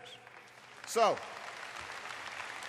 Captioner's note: applause